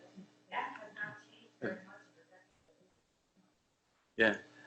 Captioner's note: speaks quietly